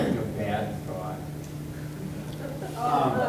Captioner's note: everyone laughing